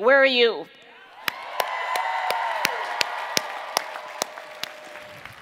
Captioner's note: cheering and Applause